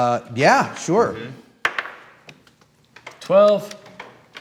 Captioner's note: die clacking